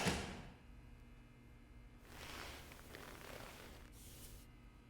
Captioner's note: lights buzzing